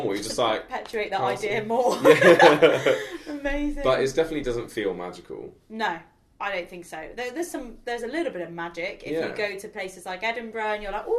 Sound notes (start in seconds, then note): 1.9 both laugh